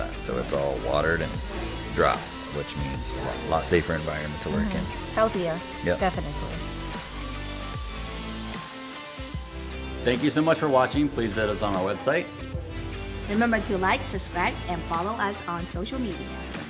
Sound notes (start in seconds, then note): 7.7 grinder whirring; 9.2 rock music